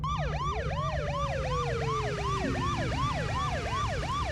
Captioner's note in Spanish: Sirena de patrullero